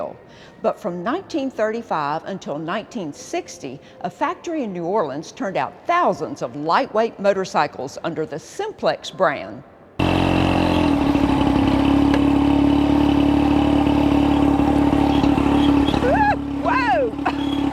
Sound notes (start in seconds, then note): 10.0 engine rumbles